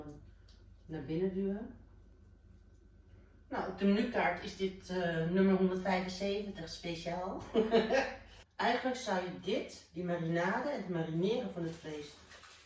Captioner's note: haha